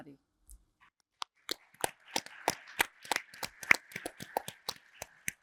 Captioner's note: audience applauds